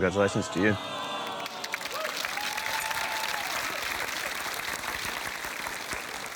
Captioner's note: applause, cheering